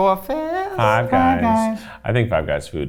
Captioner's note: bell ringing